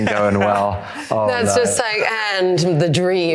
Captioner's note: laugh